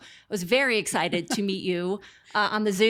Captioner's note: laughs